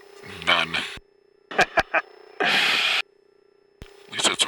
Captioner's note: laughing